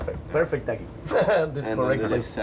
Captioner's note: laughs